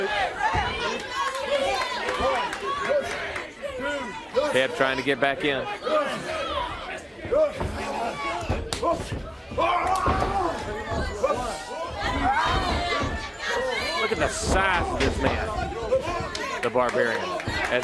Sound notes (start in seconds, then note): 6.7 crowd chatter